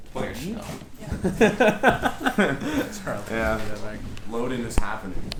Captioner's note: clattering noises, bands loading in